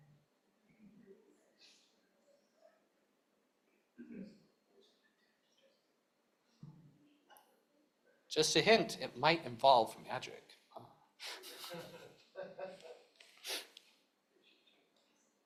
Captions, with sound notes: Just a hint. It might involve magic. [CHUCKLES]